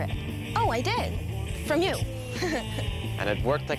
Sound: laughs

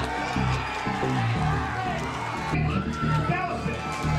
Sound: crowd cheering

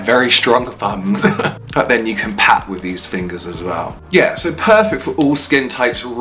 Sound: laughs

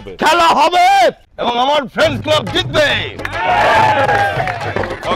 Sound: applause

